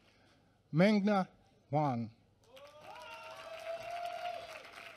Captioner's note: applause